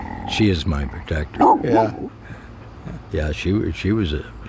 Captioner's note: dog growling; dog barking